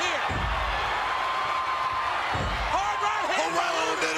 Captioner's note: crowd cheers